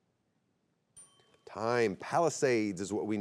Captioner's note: bell chimes